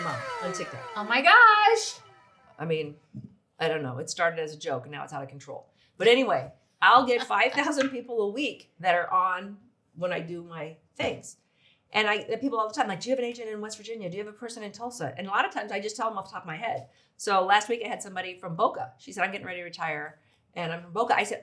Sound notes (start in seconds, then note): 0.7 country music; 7.1 laughs